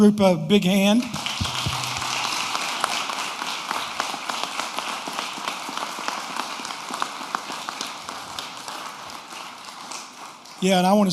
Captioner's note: applause